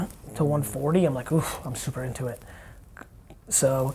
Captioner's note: sighs